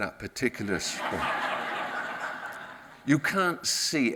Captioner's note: audience laughs